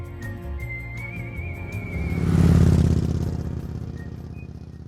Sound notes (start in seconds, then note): 2.2 vehicle engine whirring